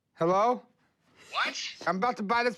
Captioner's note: on phone